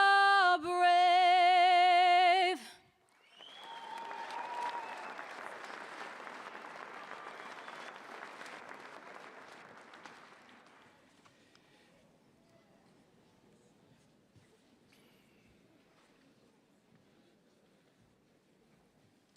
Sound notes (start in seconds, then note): 6.9 applause